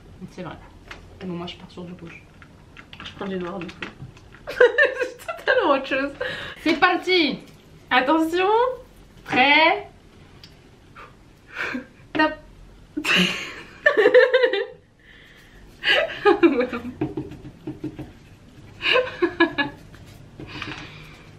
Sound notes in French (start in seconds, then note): 4.4 rires; 13.0 rires